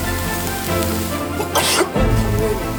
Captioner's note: cough